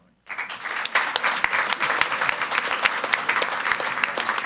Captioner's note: audience applauds